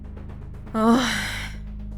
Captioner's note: exhales